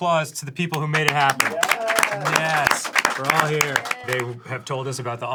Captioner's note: clapping